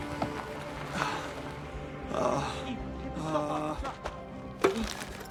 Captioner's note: groaning